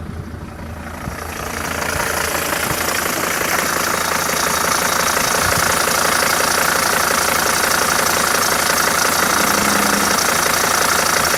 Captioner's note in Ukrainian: працює двигун